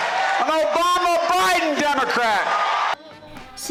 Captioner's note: cheering and applause